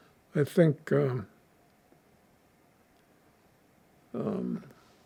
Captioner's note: pauses 6 seconds